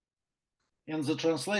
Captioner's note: non-english speech